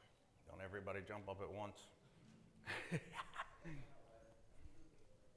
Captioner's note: laughs